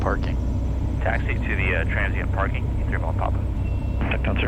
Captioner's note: radio chatter